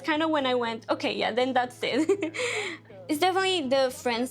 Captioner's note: chuckling